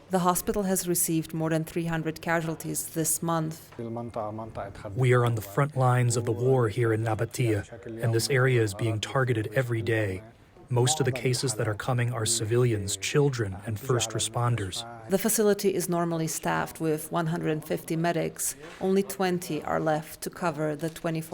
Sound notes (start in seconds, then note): 4.7 through translator